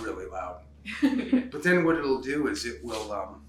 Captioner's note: laughs